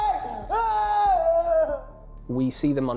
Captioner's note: crying